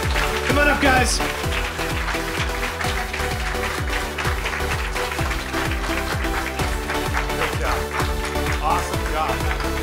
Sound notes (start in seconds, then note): 1.6 applause